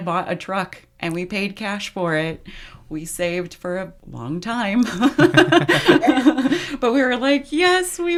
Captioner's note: laughs